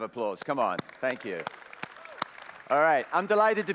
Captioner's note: applause